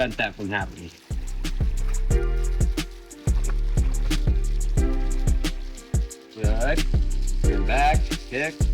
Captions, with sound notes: that from happening. [WATER SOUNDS] Good. We'll come back. Kick.